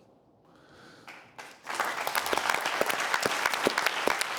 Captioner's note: applause